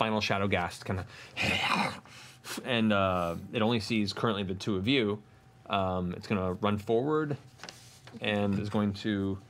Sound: snarls

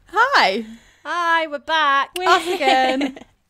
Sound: laughter

